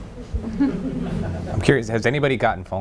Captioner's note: everyone laughing